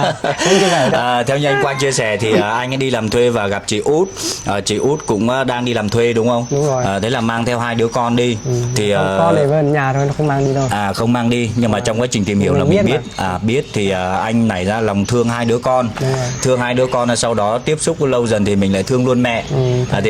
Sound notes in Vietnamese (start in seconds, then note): 0.0 tiếng cười; 4.1 khịt mũi